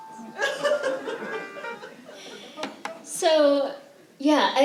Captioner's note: laughter